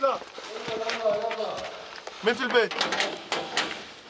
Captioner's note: Arabic spoken audio